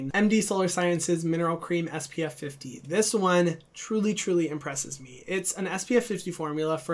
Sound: none

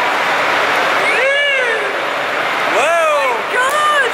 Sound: mum cheers

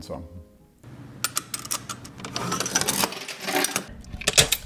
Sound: coins dropping

